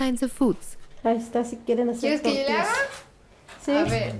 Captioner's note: speaking Spanish